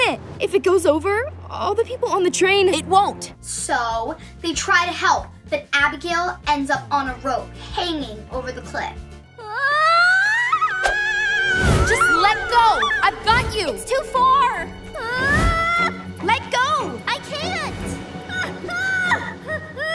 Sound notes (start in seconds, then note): 8.9 shouts